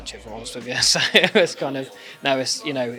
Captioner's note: laughing